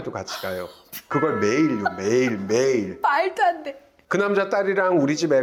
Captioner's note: shocked